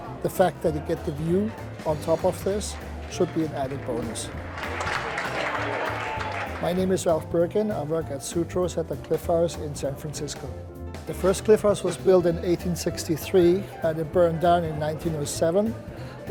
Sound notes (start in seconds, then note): 5.0 applause